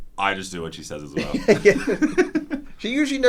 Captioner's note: laugh